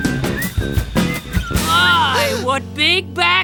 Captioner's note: whistling